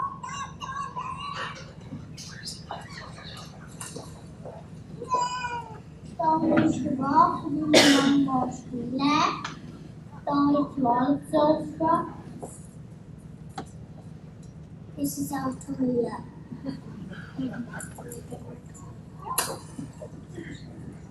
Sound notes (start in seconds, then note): 0.0 children laugh; 5.7 child speaks foreign language